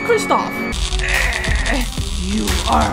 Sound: static noise

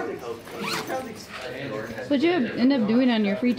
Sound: participants chatting

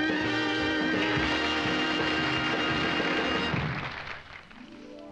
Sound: crowd applauding; soft orchestral music

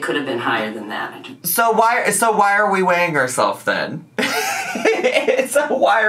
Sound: laughs

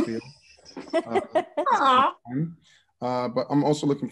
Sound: laughs

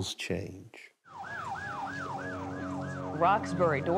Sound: sirens

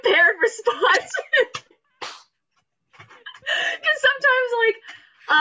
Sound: laughs

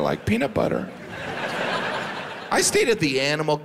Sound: audience laughs

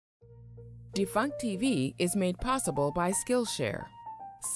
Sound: woman's Voice

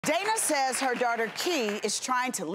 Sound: audience applauding

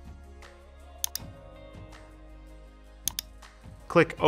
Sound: mouse clicking

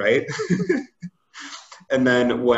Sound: laughs

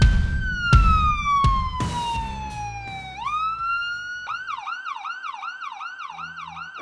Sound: ambulance siren sounds

